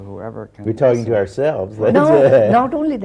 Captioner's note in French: Rires